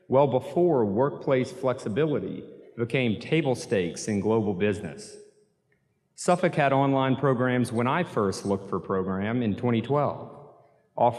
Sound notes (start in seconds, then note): none